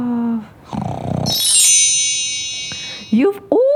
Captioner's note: snoring; bells